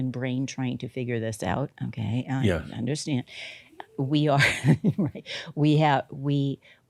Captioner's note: she chuckles